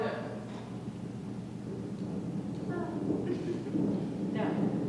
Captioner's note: subtle sound of thunder